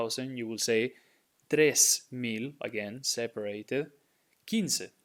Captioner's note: speaking in Spanish